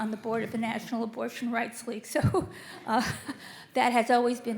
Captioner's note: laughs